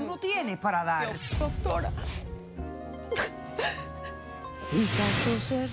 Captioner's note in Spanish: Sollozos